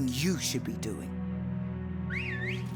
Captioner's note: dramatic music; whistling